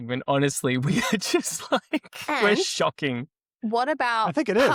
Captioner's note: laughs